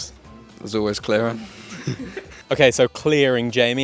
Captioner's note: student chuckles